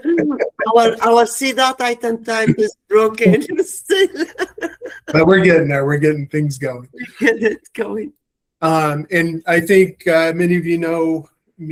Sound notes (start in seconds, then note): 2.3 laughing